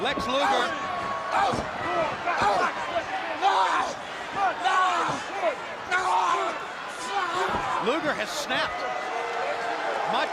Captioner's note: crowd chatter